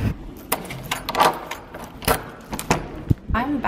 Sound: key turning

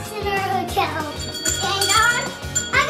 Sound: bell ringing

